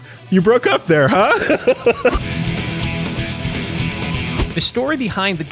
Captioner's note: laughs